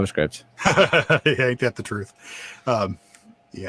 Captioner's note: laughs